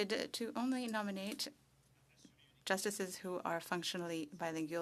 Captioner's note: speaking French